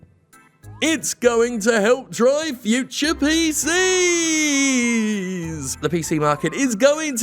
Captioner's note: mimicking voice